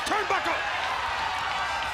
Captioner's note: crowd cheering